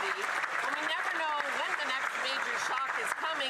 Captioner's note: some Applause